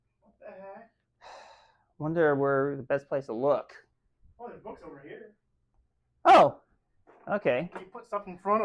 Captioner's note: sighs